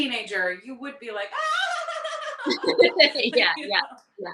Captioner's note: hysterically laughing